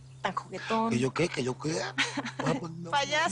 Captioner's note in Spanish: Risas